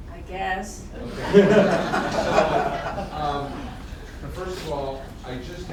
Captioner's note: laughter